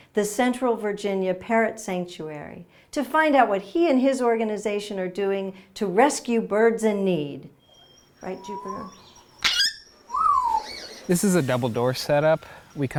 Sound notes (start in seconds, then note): 9.6 parrot screeches